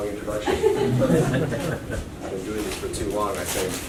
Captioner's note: laughs